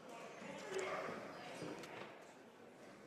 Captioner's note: speaking French